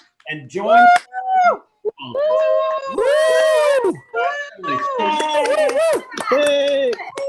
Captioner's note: speaker's voice drowned out by cheering